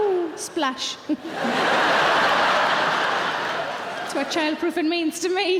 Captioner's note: audience laughing